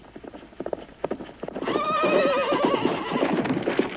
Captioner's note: horse neighing